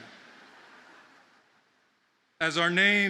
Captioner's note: audience laughing